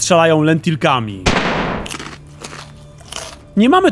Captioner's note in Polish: strzał, odgłosy chrupania